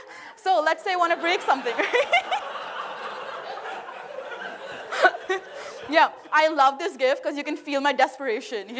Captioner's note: laughter